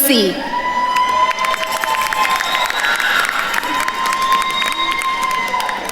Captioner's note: attendees cheering and applauding